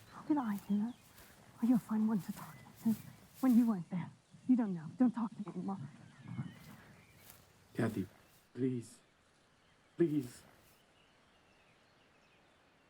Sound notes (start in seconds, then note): none